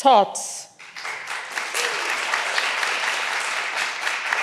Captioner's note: all applauding